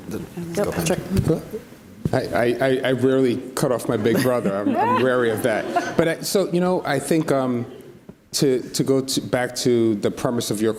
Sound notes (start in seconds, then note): 5.8 audience laughs